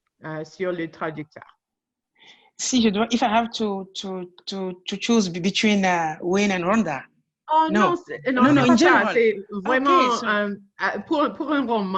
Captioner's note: french